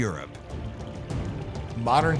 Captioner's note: stream babbling